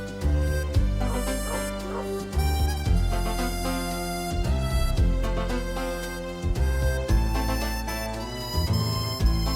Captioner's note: dog barking